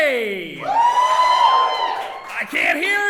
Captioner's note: audience cheering